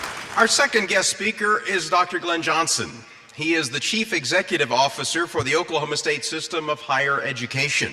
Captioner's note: applause